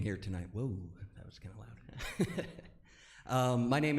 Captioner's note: laughs